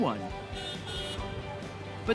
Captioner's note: horn honks